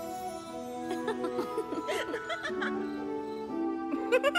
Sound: laughter; laughing

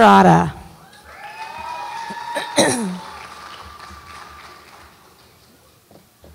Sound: audience applauds and cheers

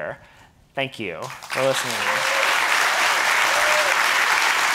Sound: audience applauding

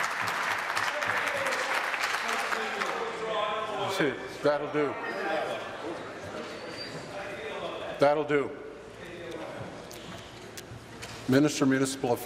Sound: applause

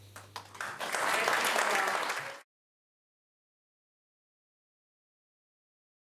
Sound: audience claps

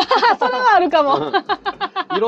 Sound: laughs

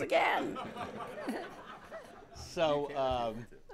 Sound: laughter

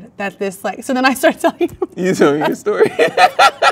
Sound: laughs

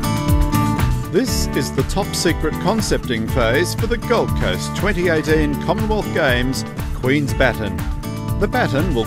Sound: intro music; voiceover

